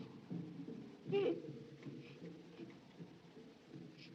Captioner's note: muffled Sobbing